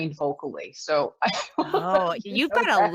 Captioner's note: laughs